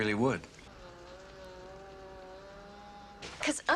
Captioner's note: buzzing